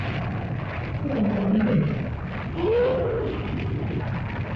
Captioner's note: dinosaur growls & grumbles; fire crackles; dinosaur cries out; fire crackles; lizard growls & grumbles